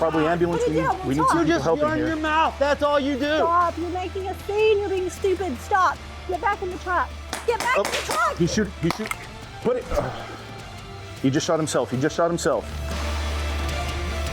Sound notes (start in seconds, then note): 8.2 gun bangs